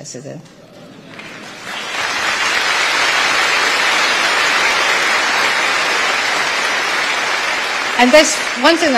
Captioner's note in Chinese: 台下鼓掌